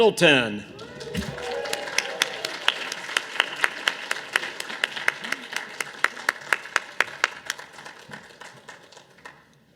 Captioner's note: audience applause